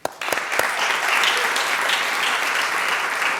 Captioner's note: applause